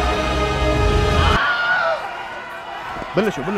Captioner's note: screaming